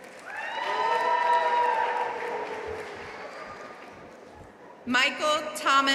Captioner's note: audience cheering and applauding